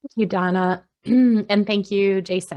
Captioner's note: clears throat